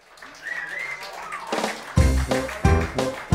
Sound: applause

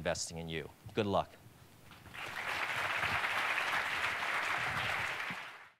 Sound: audience clapping

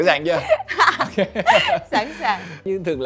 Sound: laugh

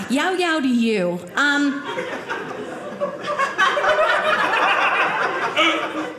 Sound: audience laughing

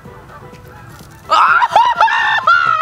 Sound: crunching

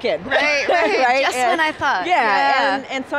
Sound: they laugh

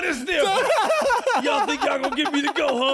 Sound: laughing

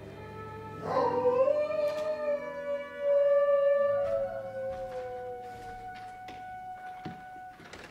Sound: wolf howls

